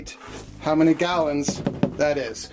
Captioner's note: taps plastic tub